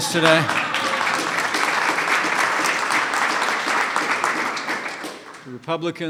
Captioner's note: applause